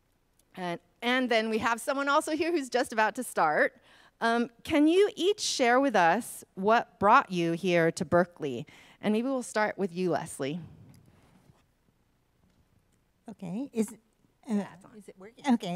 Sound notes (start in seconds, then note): none